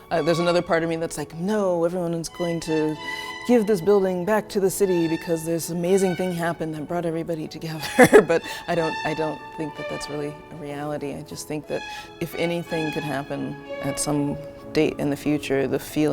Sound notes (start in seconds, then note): 7.8 laugh